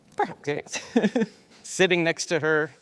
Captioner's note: laughing